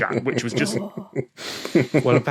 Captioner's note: snickers